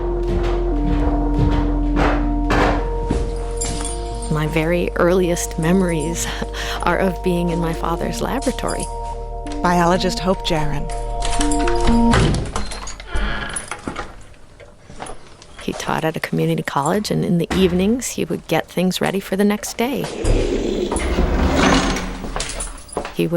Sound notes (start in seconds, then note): 0.1 footsteps clattering; 11.2 door unlocking; 12.2 door creaking; 21.4 door clattering